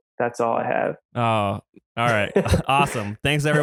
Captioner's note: laughs